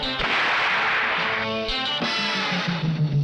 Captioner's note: gun shoots; tense music continues